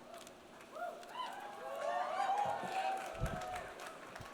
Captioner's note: audience cheering; audience applauds